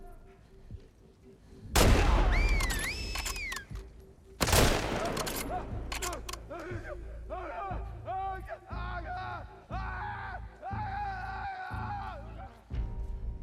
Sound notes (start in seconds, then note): 2.3 whistle; 5.0 screams